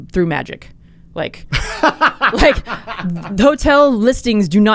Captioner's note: laughing